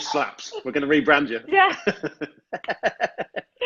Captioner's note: laughs